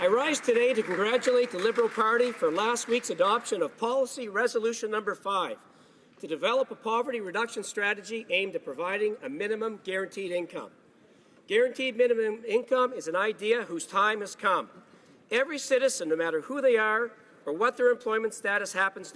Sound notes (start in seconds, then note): 3.1 applause